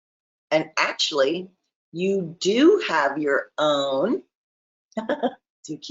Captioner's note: chuckles